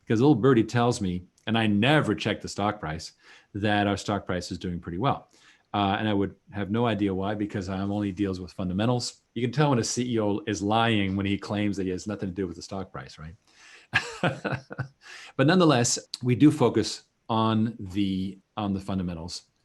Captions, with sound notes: because a little birdie tells me and I never check the stock price, that our stock price is doing pretty well. And I would have no idea why because I'm only deals with fundamentals. You can tell when a CEO is lying when he claims that he has nothing to do with the stock price, right. (laughing) But nonetheless, we do focus on the fundamentals.